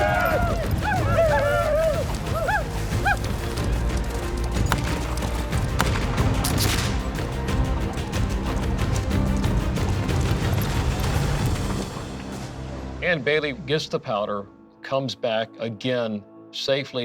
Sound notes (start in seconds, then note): 0.0 indians whooping; 3.9 gunfire